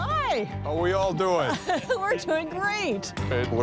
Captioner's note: laughs